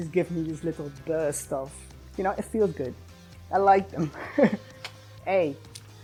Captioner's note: laughs